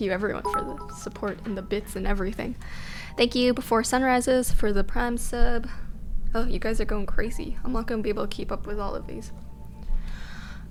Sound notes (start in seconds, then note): 0.4 notification tingling